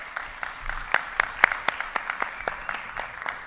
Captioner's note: all applauding